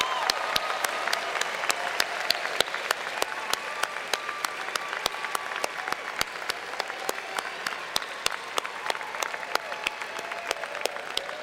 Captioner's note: applause